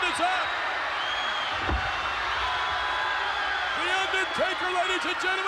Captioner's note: crowd cheering